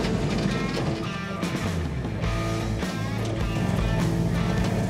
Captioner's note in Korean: 덜컹 덜컹